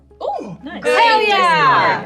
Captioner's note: gasp